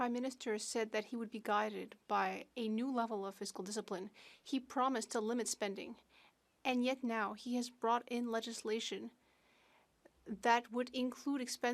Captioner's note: speaking French